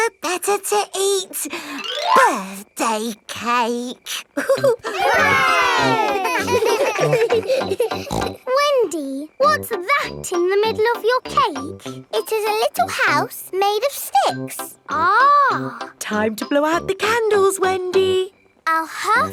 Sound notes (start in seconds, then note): 4.3 chuckles; 4.3 laughing; 6.4 snorts